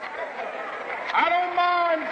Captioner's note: applause